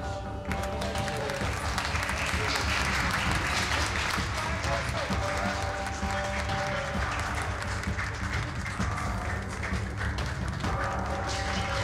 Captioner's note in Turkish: Alkış